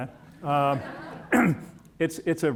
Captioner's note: audience chuckling